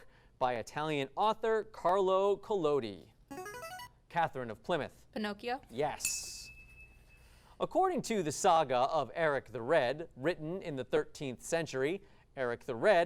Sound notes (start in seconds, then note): 3.3 device sound; 6.0 ding